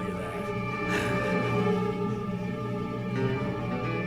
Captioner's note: suspenseful music; low chuckling